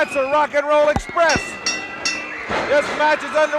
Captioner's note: bell chimes